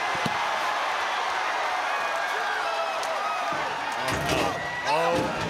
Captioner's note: audience cheering; body thuds